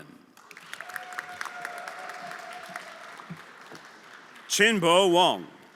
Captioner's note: everyone applauding